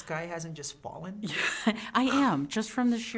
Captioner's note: chuckling